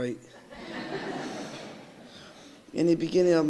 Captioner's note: audience laughing